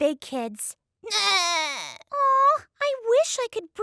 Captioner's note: sobbing